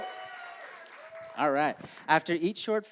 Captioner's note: applause